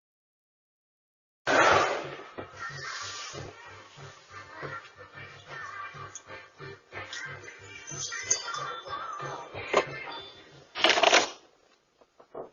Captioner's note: door closes; door opens